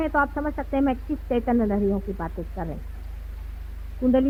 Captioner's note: vibrations